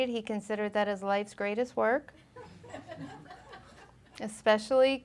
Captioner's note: audience laughing